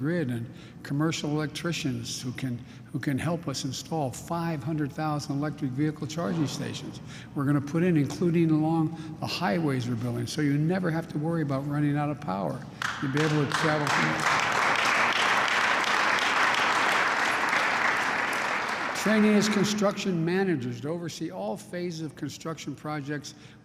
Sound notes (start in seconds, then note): 12.8 applause